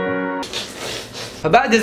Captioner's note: kissing noises